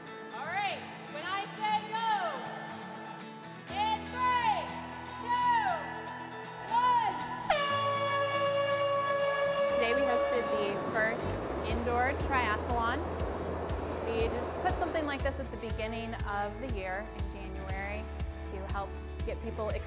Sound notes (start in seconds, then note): 7.4 air horn